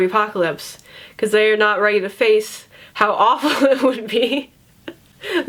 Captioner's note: laughs